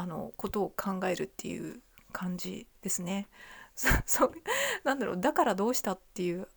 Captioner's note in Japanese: 笑い; 息をのむ音